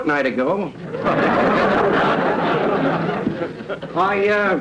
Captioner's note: audience laughter